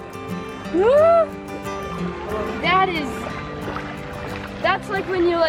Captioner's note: whimpering